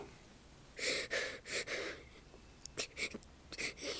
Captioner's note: Cole sobs